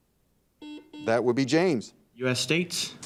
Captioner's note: buzzer dings